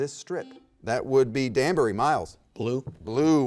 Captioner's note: button beeping